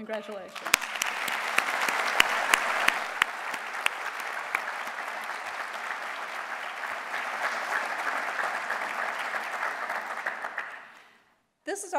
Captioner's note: applause